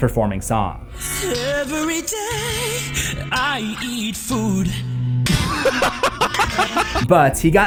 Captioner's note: laughter